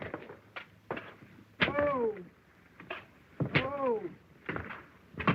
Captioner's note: groaning